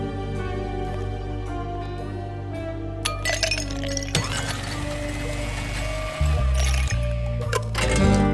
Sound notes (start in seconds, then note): 4.2 blender whirring